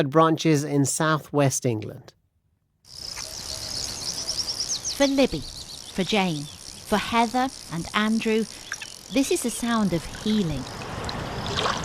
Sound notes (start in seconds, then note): 2.9 birds chirping